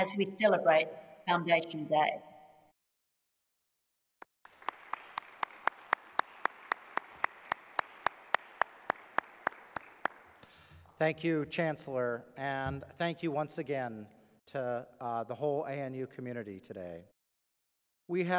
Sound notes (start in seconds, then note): 4.4 applause